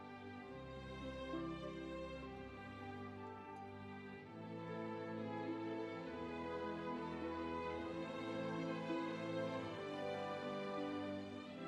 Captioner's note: applause